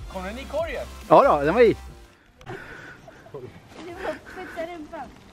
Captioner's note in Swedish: laughing